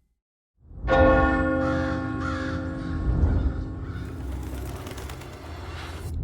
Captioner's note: clock chimes; bird calls; wings flutter